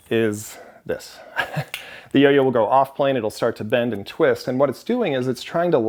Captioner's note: chuckle